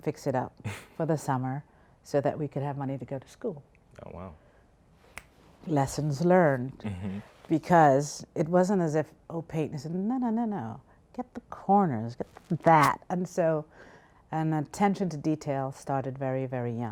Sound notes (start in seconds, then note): 0.7 laughs; 5.1 snaps fingers